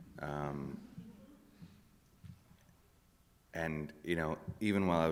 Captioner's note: none